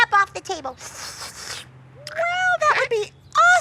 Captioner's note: slurping